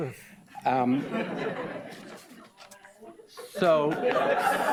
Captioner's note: audience laughs